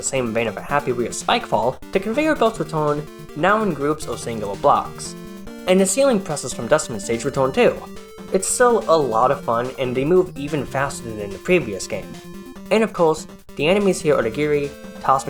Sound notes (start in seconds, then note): none